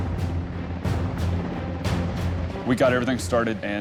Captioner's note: helicopter blades chopping